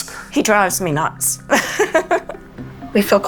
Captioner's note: laughs